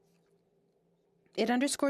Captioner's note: speaking French